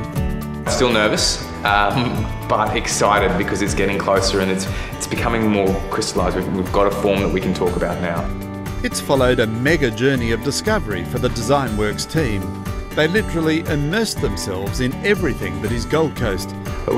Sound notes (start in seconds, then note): 8.1 voiceover